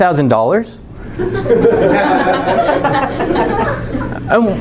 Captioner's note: laughing